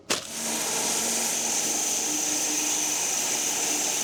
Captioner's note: log saw whirring